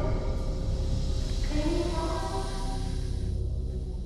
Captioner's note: strange voice